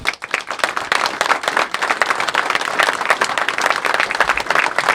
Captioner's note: applauses